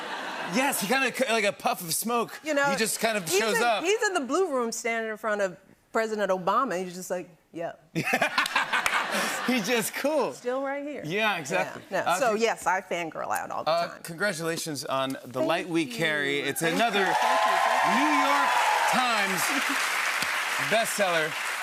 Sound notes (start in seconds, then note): 7.9 laughter